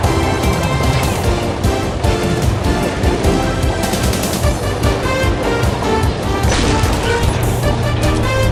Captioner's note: autocannons